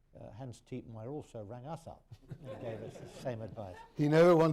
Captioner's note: laughter